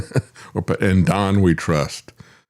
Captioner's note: laughs